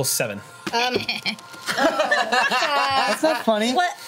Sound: laughs

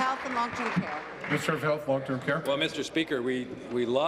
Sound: applause

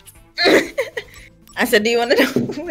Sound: friend laughs; starts laughing

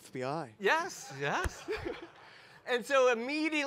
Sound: laughs

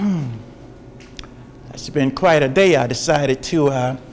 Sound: sighs

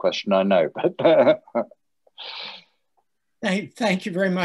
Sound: laughing

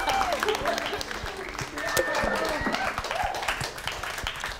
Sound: queens cheering

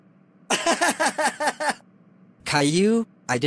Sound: laughing

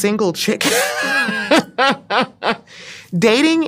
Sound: laughing

